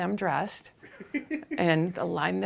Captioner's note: host laughing